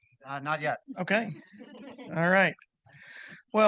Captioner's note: participants laughing